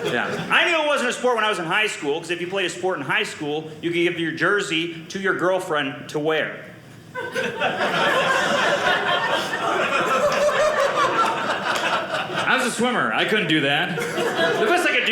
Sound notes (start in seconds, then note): 7.1 audience laughing